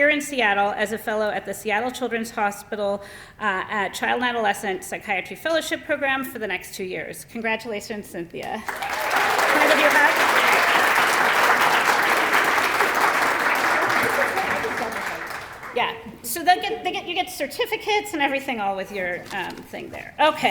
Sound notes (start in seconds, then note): 8.4 applause